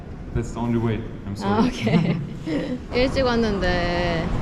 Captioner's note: bitter laughter..😂